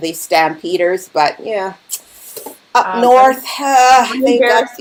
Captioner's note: clicks tongue